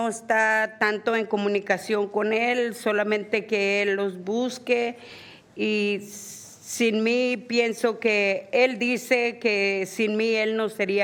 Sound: speaking spanish

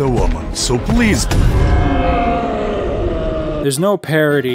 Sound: Colossus groans in pain at half-speed

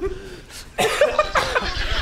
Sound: laughs

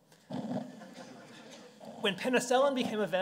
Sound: audience chuckling

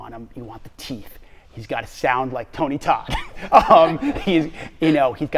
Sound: laughing

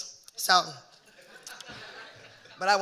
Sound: audience laughing

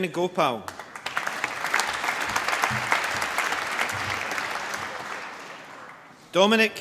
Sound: applause

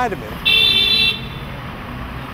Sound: car horn blasts

